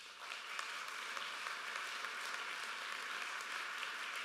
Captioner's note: applause